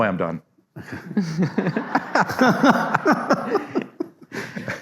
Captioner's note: audience laughs